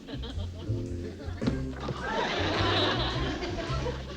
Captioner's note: banging